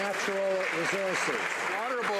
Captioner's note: some Applause